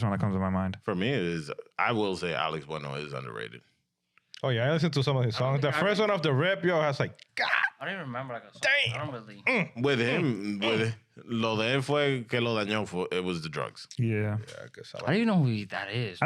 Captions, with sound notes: that comes to my mind. For me, it is, I will say Alex Bueno is underrated. Oh yeah, I listened to some of his songs. The first one of the rep, yo, has like, god. I didn't even remember. Damn. With him, with the, (Speaking In Foreign Language) it was the drugs. Yeah. I guess I like- I didn't know who that is.